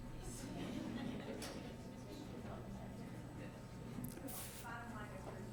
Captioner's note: audience speaking faintly